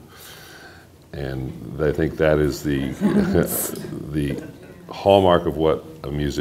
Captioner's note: laughter